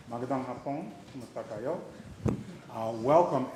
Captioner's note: speaking in foreign language